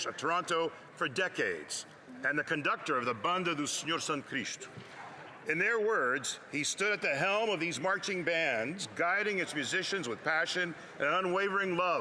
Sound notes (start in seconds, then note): 4.8 speaking French